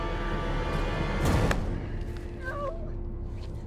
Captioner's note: tense music; dramatic bang